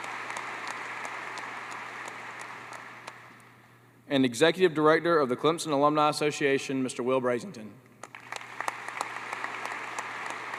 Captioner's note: applause